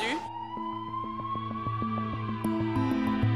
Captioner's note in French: sirène